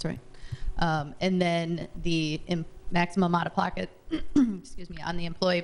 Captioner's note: clearing throat